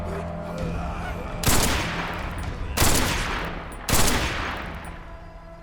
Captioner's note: gunshots